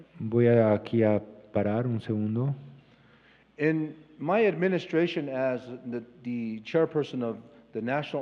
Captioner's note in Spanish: Expositor habla en inglés